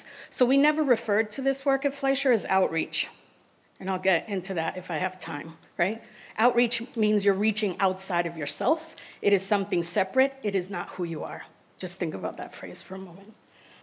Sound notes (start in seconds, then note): none